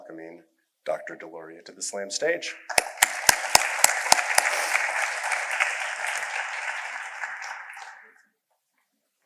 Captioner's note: applause